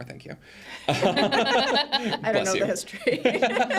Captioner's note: group laughing